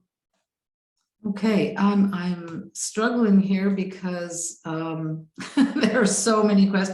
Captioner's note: laughs